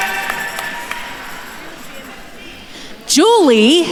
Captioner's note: attendees applauding; attendees chattering